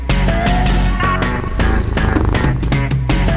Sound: cat Purring

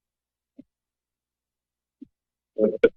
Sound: silence

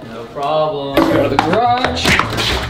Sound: objects falling noise

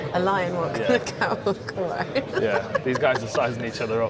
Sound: laughs

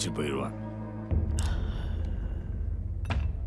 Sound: sigh

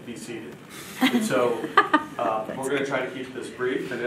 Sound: laughs

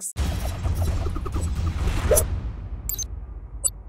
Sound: graphic whooshes and whirs

